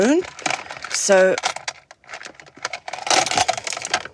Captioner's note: clattering